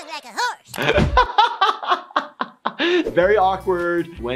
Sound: laughs

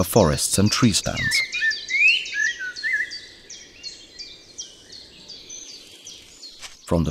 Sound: sounds of nature

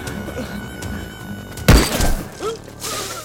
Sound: gunshot

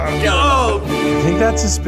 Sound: Ned groans; groans

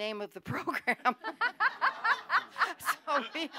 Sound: laughter

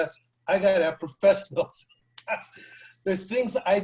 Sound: laughter

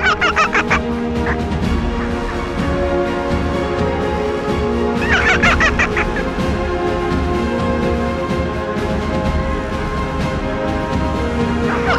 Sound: fox Sounds

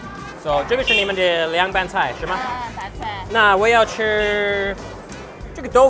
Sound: speaking in a foreign language

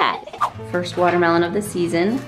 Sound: laughing

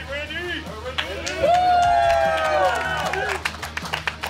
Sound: cheering & Clapping

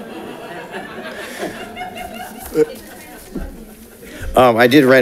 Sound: congregation laughs

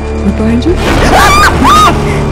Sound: scream

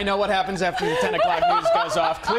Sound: laughter

